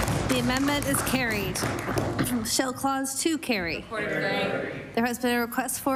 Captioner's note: applause